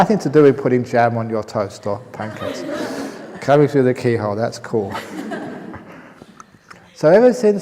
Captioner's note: laughter; laughter